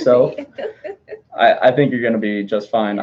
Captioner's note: laughing